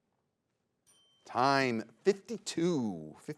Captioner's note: bell dings